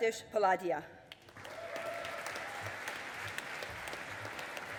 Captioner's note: audience applauding